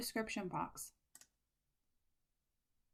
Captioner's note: click